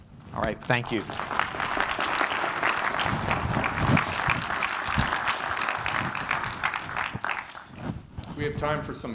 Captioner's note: applause